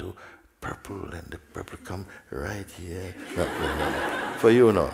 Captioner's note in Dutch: gelach